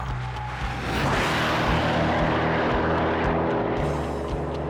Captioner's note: engine roars